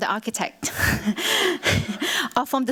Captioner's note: chuckles